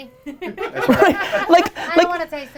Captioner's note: laughing